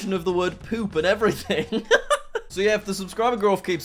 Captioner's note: chuckles